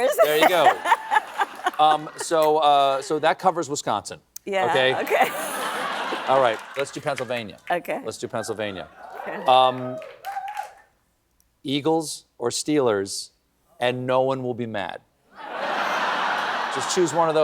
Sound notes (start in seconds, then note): 15.4 laughter